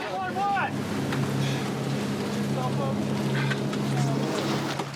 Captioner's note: breathing heavily